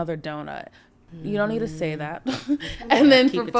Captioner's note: chuckles